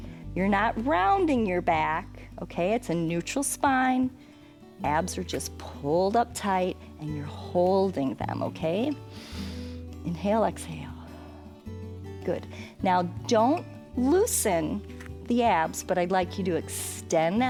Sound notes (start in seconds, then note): 9.1 inhales